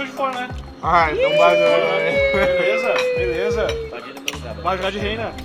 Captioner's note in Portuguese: pancada fazendo som de provocação